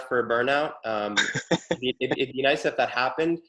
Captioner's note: laughs